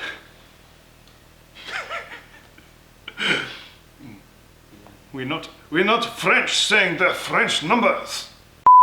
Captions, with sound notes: [laughter] We're not French, saying the French numbers.